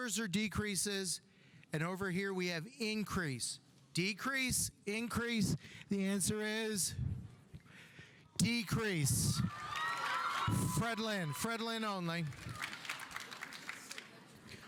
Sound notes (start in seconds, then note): 9.4 audience cheering; 9.5 audience applauding